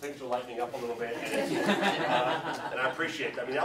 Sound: audience laughs

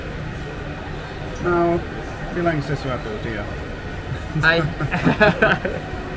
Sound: laughing

